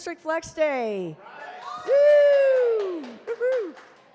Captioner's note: cheers